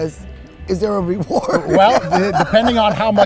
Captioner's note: laughs